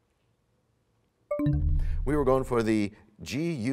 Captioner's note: bell chimes, time expires